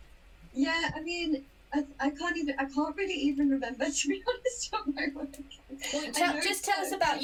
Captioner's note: laughs